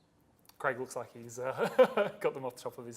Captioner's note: laughs